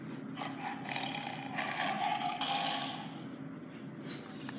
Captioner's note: tiger growling